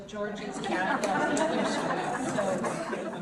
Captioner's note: audience laughs